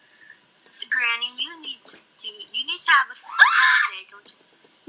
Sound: screaming

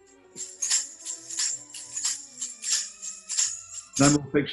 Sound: jingling continues

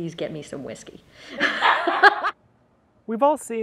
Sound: audience laughing

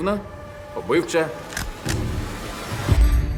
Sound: gun cocks

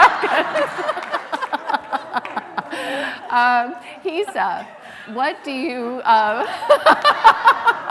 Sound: laughs; laughs

